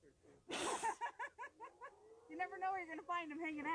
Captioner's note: laughing